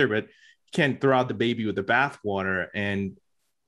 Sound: none

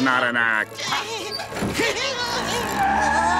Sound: groaning

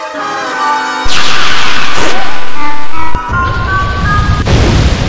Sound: lazer sounds, lazer bouncing, mask heating up

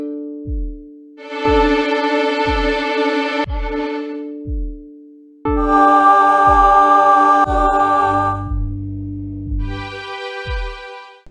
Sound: tones

